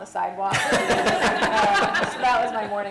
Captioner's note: laughter